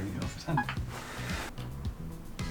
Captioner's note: laughs